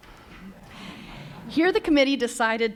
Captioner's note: laughter